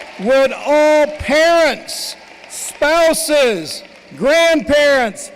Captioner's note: cheering and applause